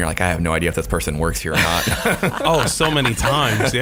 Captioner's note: laughing